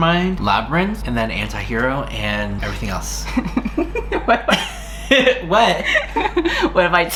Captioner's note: starts laughing